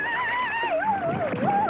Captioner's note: woman screaming